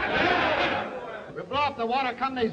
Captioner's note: all shouting